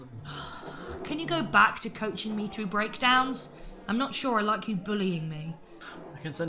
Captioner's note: sighs